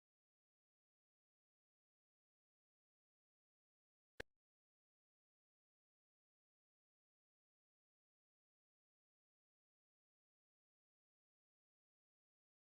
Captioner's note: silence